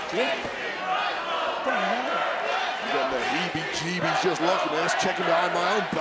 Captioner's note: applause